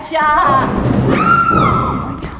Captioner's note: a loud tumbling thud; a woman screams